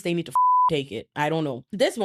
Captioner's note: beep